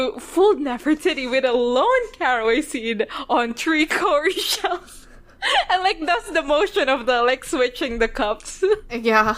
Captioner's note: laughs